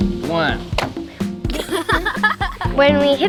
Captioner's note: kids laugh